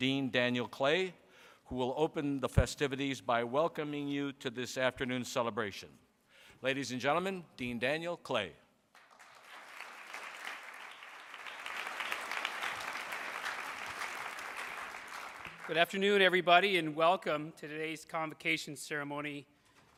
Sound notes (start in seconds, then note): 9.0 audience applauds